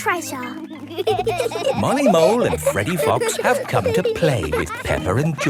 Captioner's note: laughing